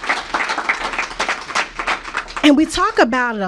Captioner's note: applause